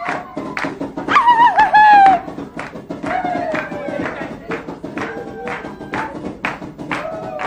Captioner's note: drums banging; women shouting